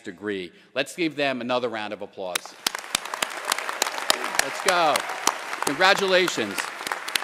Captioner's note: applause